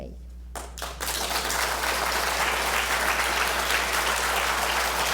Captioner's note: applause